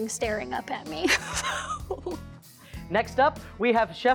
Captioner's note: laughs